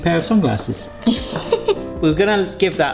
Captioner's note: chuckles